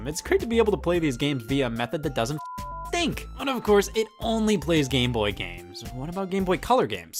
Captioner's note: beep